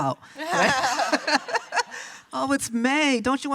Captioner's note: laughs